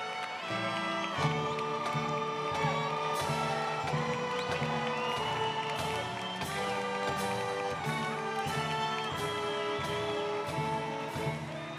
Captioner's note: applause